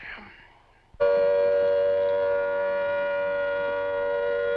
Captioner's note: siren blaring